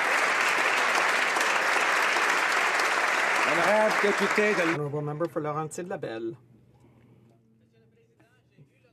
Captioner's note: applause